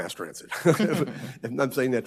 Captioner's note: laughs; panel laughs